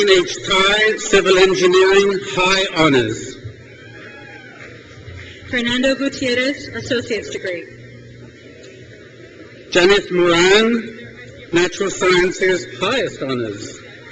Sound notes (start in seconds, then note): 3.6 crowd cheers; 8.4 crowd cheers